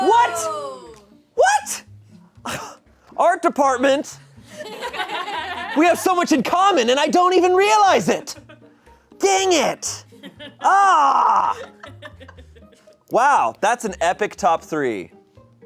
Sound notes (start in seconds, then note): 4.6 audience laughing